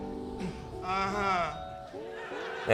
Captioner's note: audience laughs